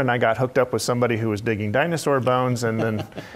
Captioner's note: laugh